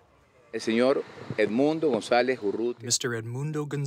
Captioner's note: through translator